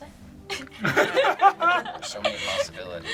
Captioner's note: group laughs